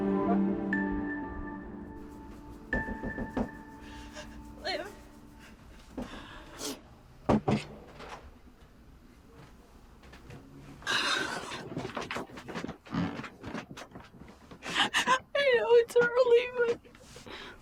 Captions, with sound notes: (door knocking) - Liv? (crying) I know it's early but,